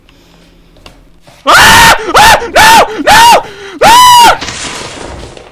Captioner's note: being chased screams